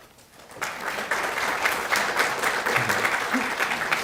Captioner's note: clapping